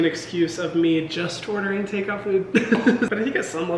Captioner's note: laughs